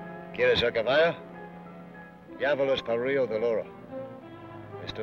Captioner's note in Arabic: بن يتحدث لغة أجنبية